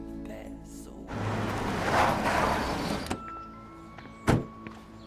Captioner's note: car engine roaring